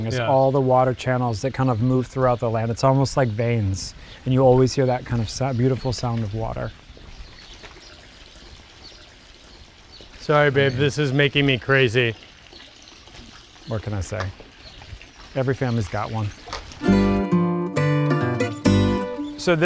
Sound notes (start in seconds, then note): 8.8 water lapping; 16.8 jaunty guitar music plays